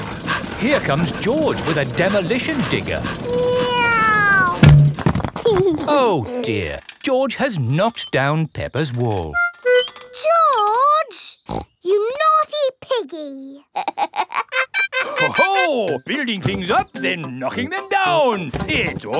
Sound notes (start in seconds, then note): 0.0 daddy pig panting; 3.5 george imitates airplane; 5.6 george giggles; 11.4 snorts; 13.6 laughs